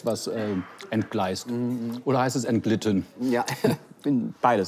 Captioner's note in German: lacht